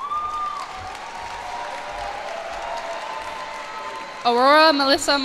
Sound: cheers and applause

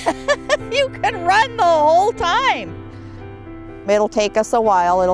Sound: laughing

